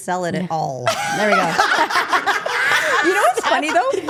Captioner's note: group laughing